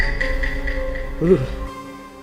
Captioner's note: shudders